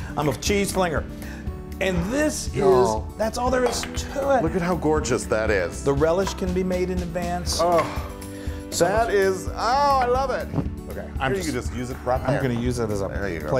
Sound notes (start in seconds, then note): none